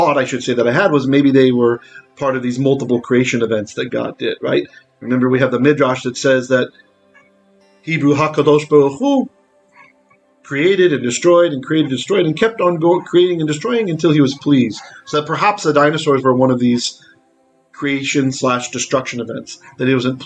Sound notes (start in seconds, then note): 8.0 Hebrew